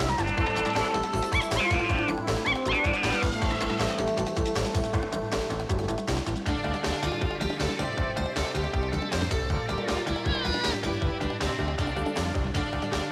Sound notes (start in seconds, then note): 2.4 chimpanzee screeching; 3.2 elephant trumpeting